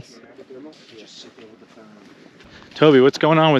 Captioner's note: indistinct conversation